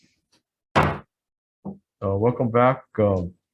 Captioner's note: gavel bangs